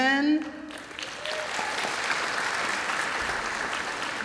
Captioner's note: applause